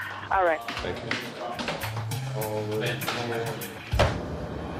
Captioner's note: sighs